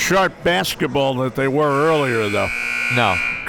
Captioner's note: buzzer ringing